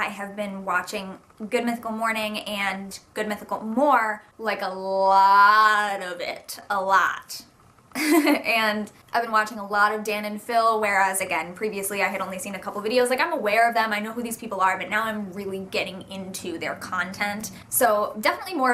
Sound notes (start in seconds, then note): 7.9 giggles